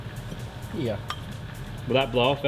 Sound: taps

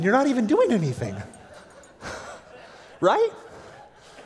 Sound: laughter

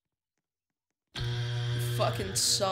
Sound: buzzer

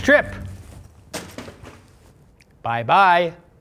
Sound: utensils crash

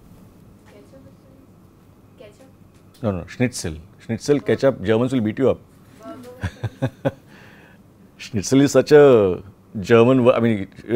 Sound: laughs

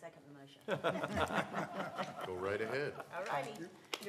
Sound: laughter

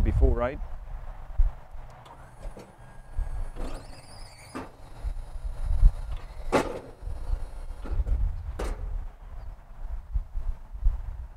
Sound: machine sounds

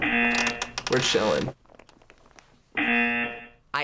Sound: buzzer

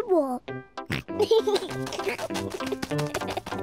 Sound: snorts and giggles

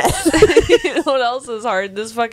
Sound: panel laughing

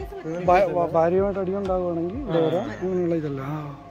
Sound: laughing

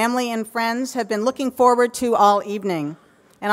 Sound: none

